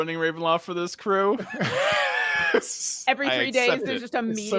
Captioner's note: people laughing